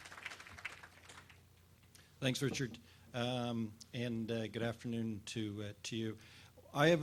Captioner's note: applause